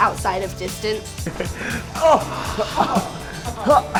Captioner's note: laughing